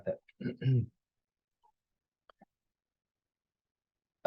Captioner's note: clears throat